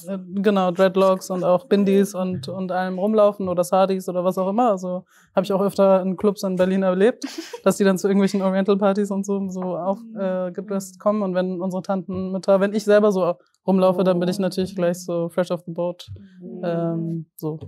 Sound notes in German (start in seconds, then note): 7.3 Gelächter